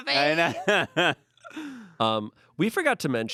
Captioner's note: laughs